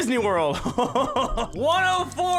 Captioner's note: laughs